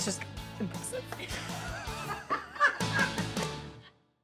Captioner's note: crew laughs